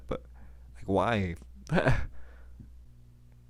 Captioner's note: laughs